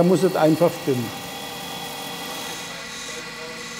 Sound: loud machine whirring

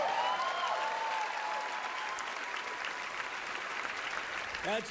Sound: cheering, applause

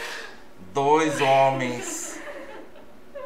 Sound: laughs

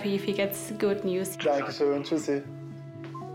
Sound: in German

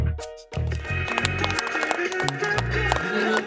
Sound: applause of relief

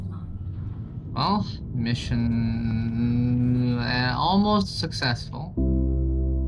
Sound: on the radio

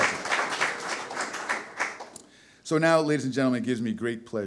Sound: audience applause

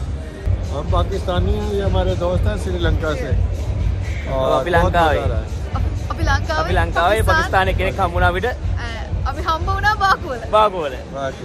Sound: friendly chatter

